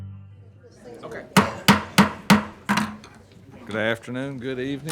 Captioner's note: gavel banging